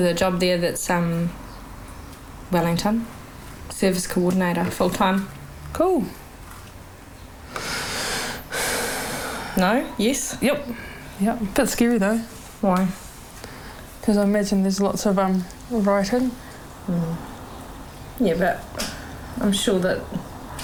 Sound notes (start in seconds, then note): 7.5 sighs